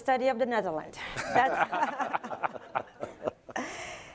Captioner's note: laughter